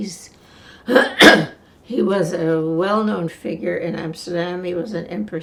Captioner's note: coughing